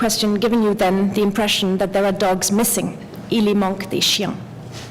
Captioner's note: french